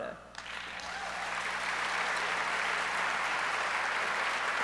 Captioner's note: audience applauds